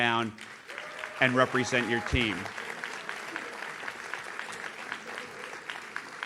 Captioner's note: audience claps